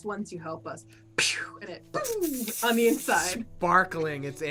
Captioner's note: fireworks popping